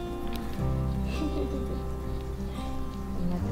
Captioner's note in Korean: 웃음